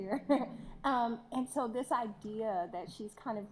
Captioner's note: laughs